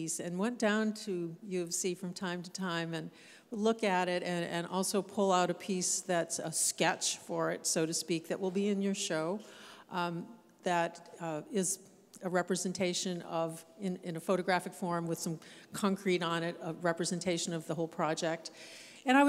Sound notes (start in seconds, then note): none